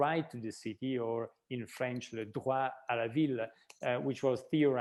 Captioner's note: speaking in french language